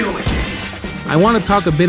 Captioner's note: gun Shot